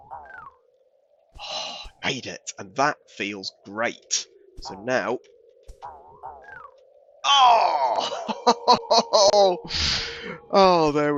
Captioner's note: chuckles